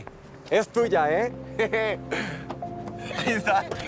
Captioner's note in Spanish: Ríe